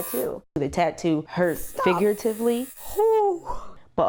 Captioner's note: gasps